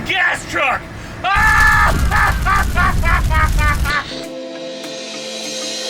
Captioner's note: laughs maniacally; energetic techno music